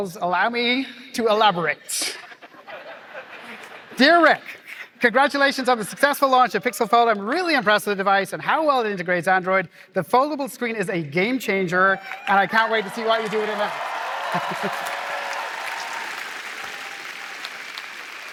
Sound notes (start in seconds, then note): 13.9 cheering